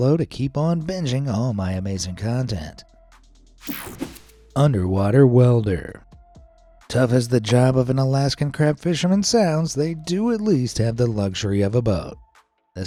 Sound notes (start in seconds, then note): 3.6 screen whooshing